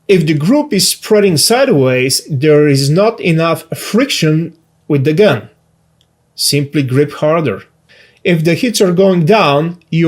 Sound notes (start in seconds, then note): none